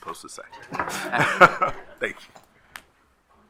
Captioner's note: commission laughing